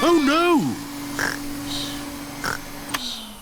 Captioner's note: snores; whirring stops